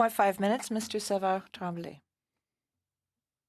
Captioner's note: speaking French